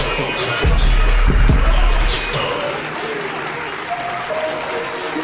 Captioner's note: audience applauding